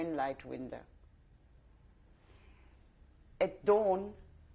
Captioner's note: pauses for 3 seconds